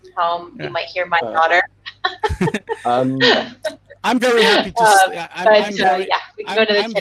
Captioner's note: laughing